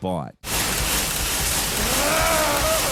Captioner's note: chainsaw whirring; grunting